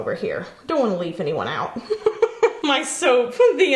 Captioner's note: chuckles